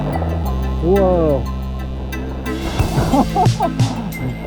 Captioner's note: laughing